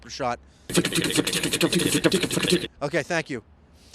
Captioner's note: helicopter noise, sort